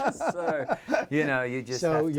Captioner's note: laughter